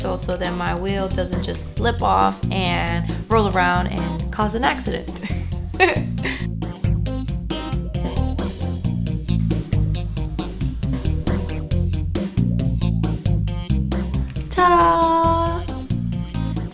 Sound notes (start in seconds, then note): 5.2 laughs